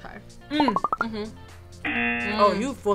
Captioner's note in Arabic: طنين الجرس